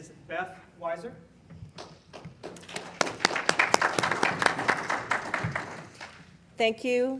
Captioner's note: applause